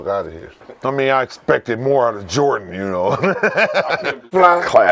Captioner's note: laughs